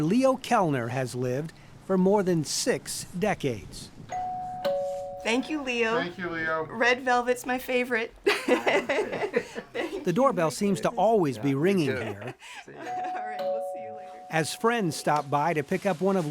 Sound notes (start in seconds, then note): 4.1 doorbell ringing; 8.2 laughing; 12.9 doorbell ringing